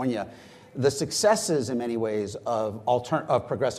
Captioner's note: none